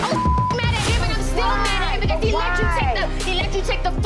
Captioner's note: beep